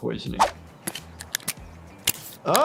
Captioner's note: syringe clicking